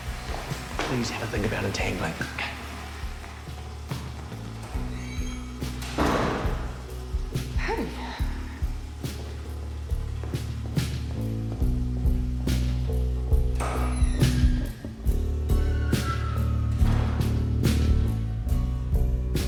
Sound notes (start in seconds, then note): 4.5 door closes; 7.4 sighs; 13.4 door creaks